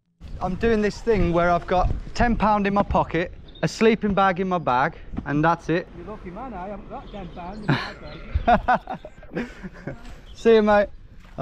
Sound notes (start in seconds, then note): 7.2 laughs